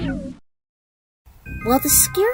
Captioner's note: roar!